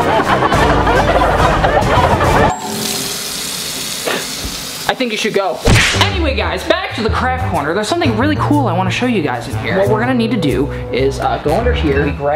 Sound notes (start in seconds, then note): 0.0 dramatic music; 2.4 water pouring